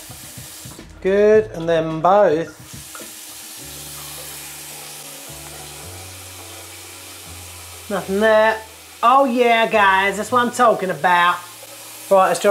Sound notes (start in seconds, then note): 3.6 water running